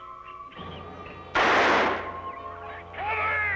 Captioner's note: gun firing